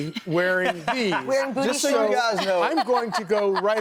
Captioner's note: laughter